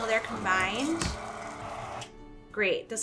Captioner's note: mixer whirring